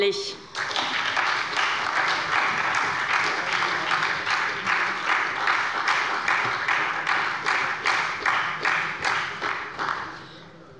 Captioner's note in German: Beifall bei der SPD